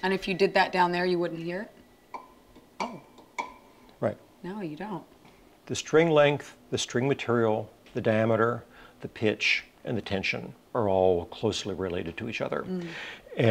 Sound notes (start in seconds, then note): 2.1 plucking